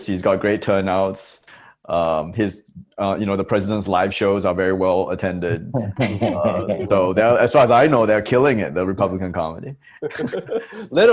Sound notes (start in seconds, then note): 5.9 Roy & Desi laugh